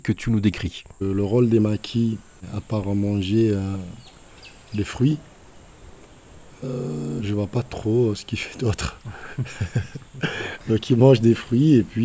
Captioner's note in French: rires